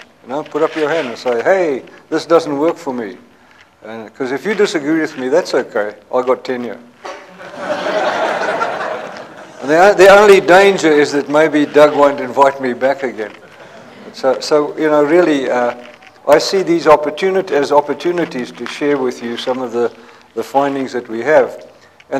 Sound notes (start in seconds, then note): 7.0 laughter